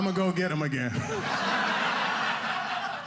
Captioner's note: audience laughing